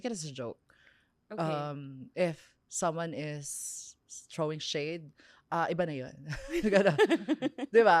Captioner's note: laughs